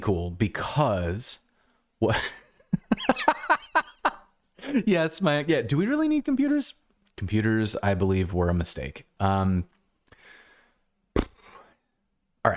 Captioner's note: laughter